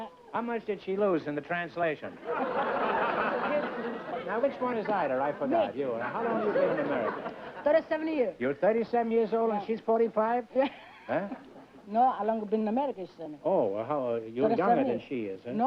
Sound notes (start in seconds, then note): 2.2 laughter; 10.6 laughs